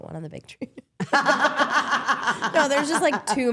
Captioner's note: all laughing